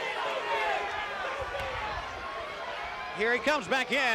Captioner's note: crowd chatter